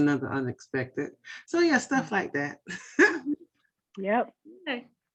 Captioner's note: laughter